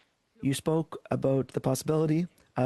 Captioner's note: speaking French